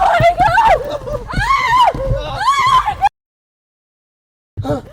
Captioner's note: gritando; jadeando